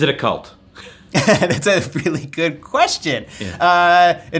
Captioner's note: laughs